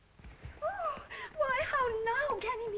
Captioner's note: Celia gasps